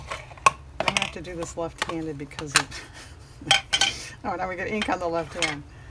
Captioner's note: laughs